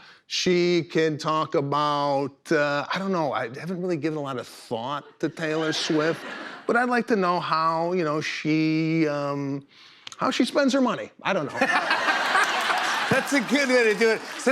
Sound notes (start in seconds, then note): 11.5 laughter